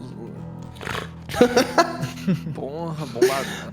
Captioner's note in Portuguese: risos